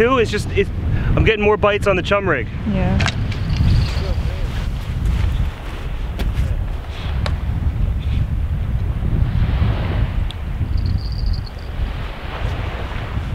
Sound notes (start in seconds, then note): 10.7 jingling